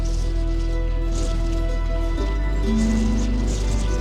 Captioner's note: desert wind sounds